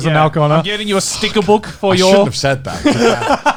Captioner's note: imitates sticker peeling off